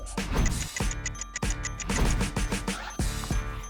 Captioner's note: clock ticks